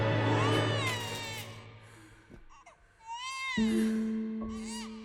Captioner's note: baby cries